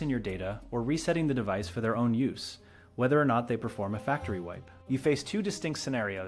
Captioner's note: speak with a measured and informative tone